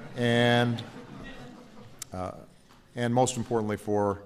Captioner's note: laughter